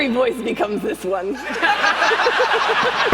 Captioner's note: laughter